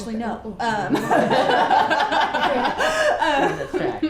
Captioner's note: laughs